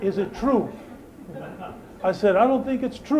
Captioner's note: laughter